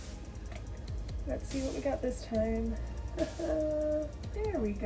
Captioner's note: nervous laughter